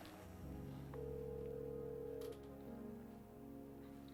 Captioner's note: phon dialing